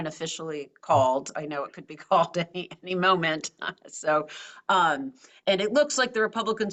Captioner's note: laugh